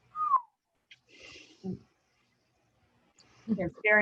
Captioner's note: whistles